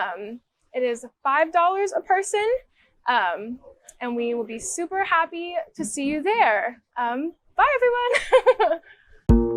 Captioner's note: laughs